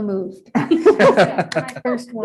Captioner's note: group laughing